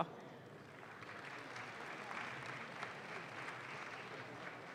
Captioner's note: audience claps